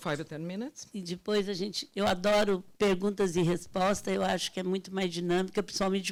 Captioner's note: speaking Portuguese